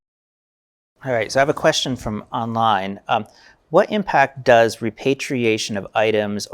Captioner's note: audience member speaking